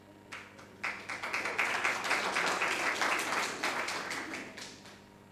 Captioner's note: audience applauding